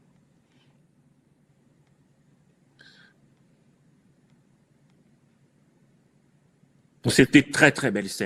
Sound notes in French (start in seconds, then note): 2.8 soupir